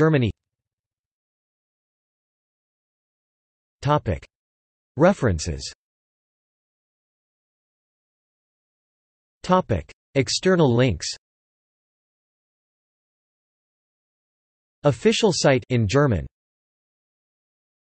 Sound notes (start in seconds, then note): 13.3 in German